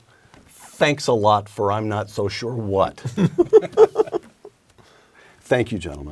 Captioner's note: laugh